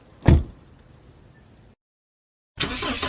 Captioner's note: sound of door closing; sound of engine running